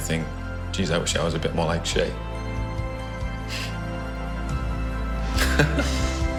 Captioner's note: laughs